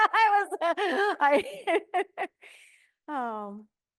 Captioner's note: laughs